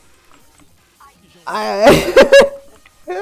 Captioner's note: laughs